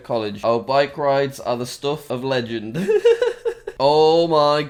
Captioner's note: laughs